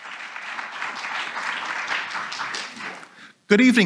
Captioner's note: audience applauds